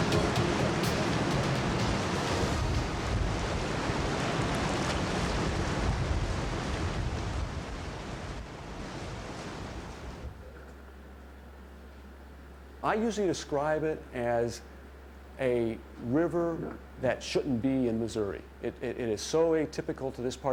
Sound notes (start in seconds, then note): 0.0 music fades; 0.0 water rushing